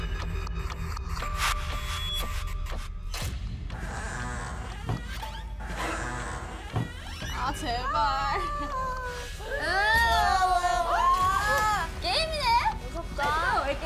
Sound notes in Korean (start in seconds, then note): 3.8 끼이이익; 5.9 문 열리는 소리조차 무섭